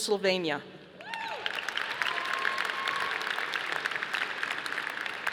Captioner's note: audience applauding